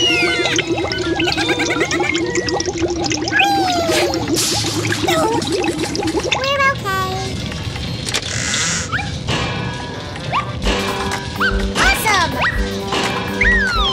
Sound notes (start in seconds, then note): 0.0 Gigglebots laugh; 4.5 crash